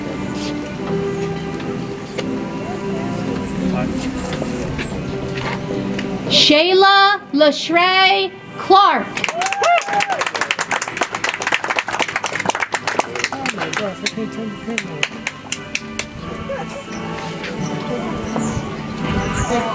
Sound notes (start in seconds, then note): 9.1 audience applauds; 13.8 soft music